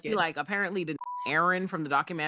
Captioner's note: beep